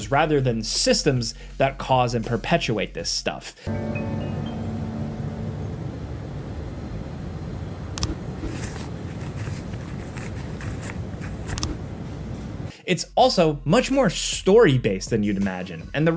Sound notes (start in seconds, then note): 3.6 dull music; 8.0 cursor clicks; 8.4 object rustles